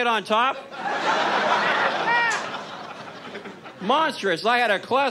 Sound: audience laughs

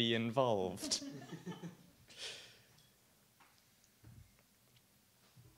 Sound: audience laughs

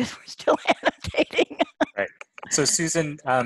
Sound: laughs

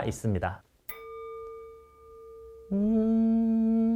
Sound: ding

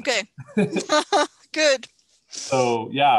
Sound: laughs

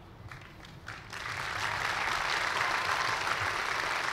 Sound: applause

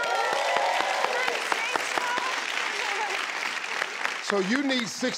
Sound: crowd cheering

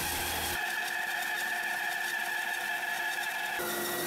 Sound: saw buzzing

